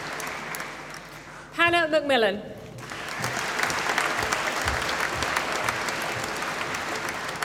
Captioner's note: applause